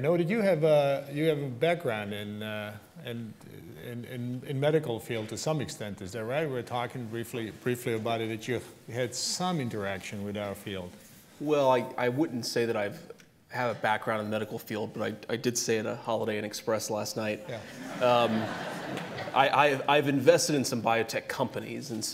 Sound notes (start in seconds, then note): 17.5 laughter